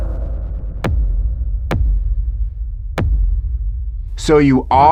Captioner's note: item tapping dramatically